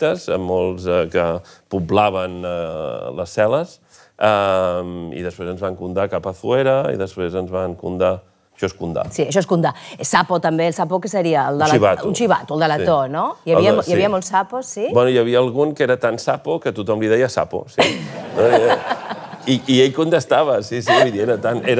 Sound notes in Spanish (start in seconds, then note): 17.8 risas